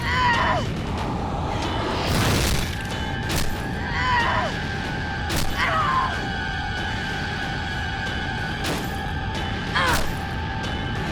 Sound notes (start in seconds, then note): 1.6 thunderous crash; 3.6 Riley grunts; 9.0 Riley grunts